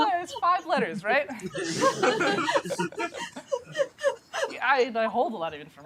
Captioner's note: laughter